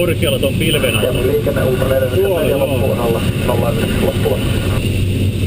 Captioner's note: radio